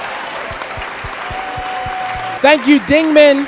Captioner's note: audience applauding and cheering